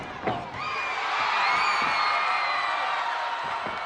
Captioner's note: crowd cheering